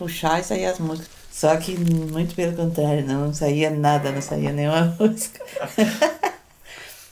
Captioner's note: laughs